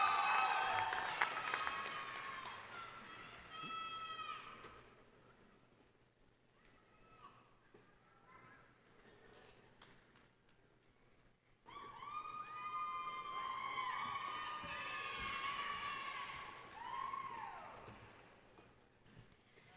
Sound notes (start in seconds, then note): 0.0 applause; 6.1 cheering